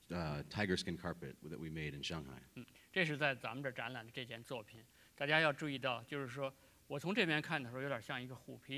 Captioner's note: speaking in Chinese; speaking in Chinese